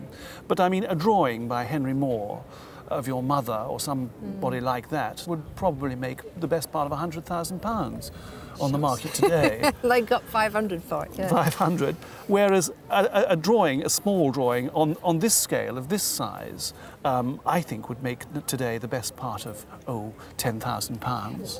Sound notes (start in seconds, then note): 8.6 laughs